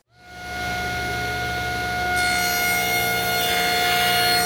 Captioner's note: blade cutting